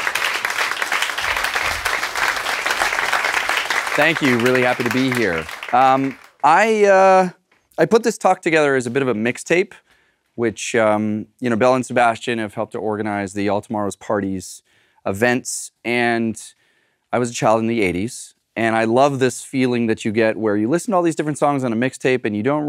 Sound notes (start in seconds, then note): 0.0 applause